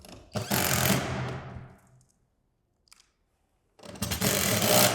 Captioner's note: drill whirring